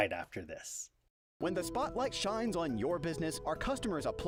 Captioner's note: voiceover